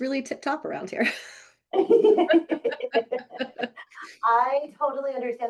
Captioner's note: both laughing